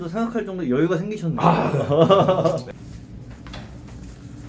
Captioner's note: laughing